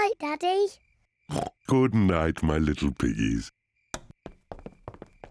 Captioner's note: oinks